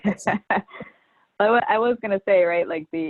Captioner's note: chuckles